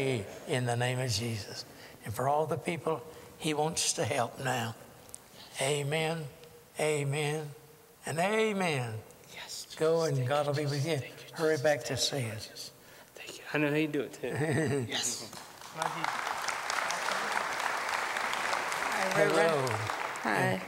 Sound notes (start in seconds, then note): 4.8 whispering; 8.8 whispering; 10.9 whispering; 12.6 whispering; 14.2 laughter; 15.2 applause